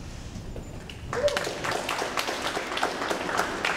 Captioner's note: audience applauds